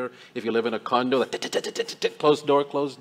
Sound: imitates machine whirring

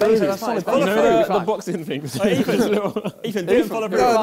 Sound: crowd mumbling

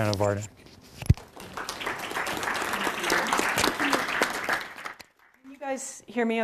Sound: applause

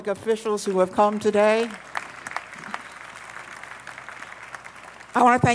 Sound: applause

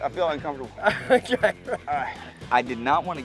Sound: laughing

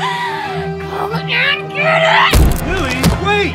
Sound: pizza cutter thuds

